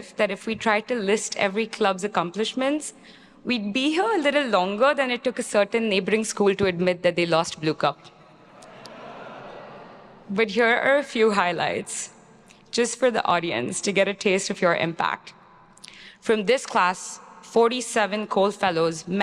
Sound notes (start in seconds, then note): 8.4 attendees laughing